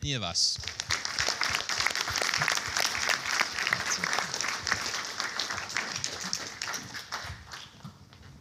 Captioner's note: applause